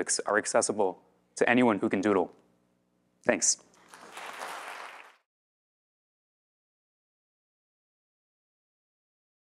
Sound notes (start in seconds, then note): 3.8 audience applaud